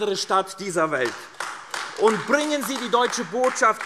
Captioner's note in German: Beifall AfD